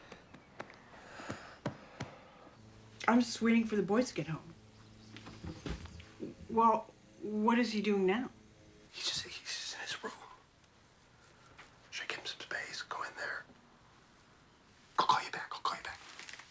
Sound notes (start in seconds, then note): 8.2 whispering